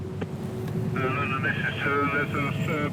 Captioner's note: radio